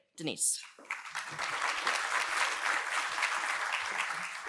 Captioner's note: audience applauds